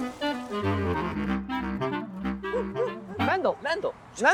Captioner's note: german shepard barks